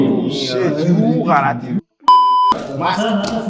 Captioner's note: beep